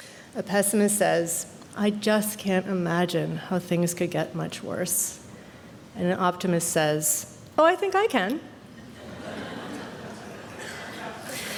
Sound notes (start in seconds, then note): 8.8 laughter